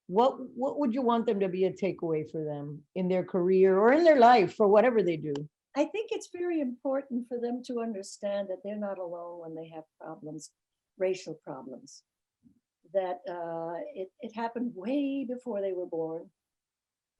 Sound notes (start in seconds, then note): none